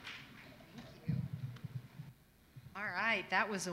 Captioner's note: applause